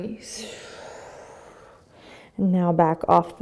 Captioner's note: exhaling